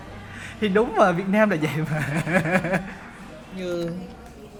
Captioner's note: laugh